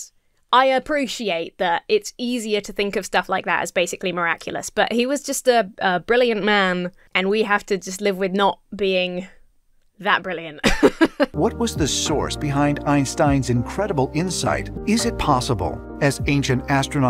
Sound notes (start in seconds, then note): 10.6 laughs